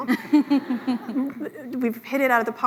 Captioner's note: laughs